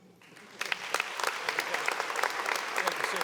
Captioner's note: audience applauding